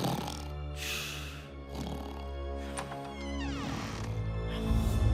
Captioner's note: snoring